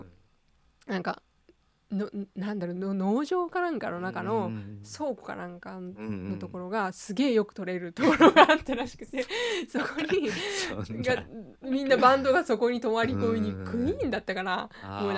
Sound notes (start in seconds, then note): 11.7 laughs